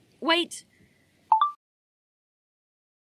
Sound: chime of a phone recorder turning off

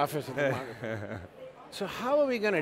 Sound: laughing

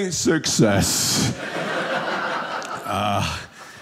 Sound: audience laughing

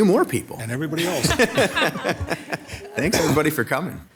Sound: members, mayor laughing

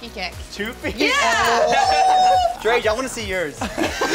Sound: cheering; laughs

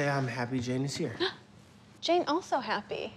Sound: Jane gasps

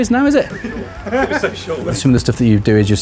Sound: laughing

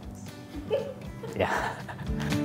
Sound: laughs

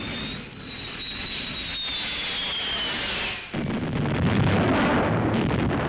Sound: planes whistling; bombs crashing

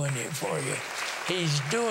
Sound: applause

